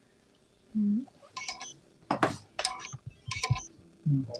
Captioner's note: beeping